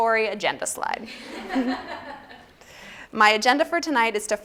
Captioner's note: laughter